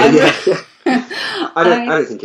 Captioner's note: both laugh